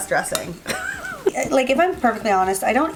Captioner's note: laughing